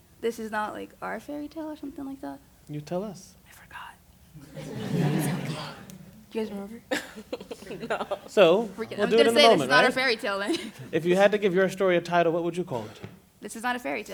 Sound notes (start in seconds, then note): 3.8 whisper; 4.3 laughter